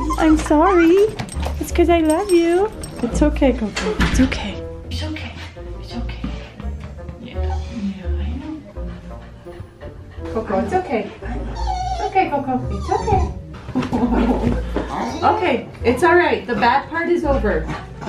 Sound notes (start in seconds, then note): 11.2 dog wimpering